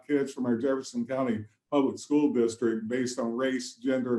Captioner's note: murmurs